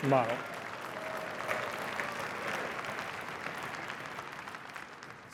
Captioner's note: cheering and applause